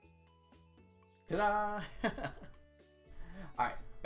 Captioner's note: laughs